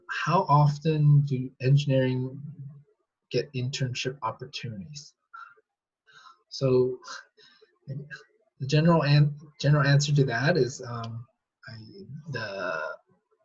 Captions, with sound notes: How often do engineering get internship opportunities? General answer to that is often (chuckles), I guess.